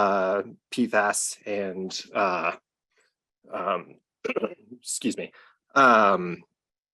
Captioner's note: clears throat